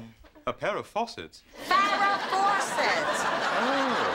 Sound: shouts

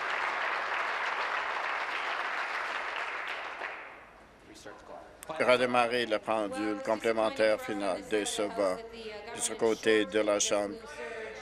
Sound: applause

